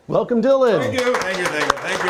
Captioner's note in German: applaus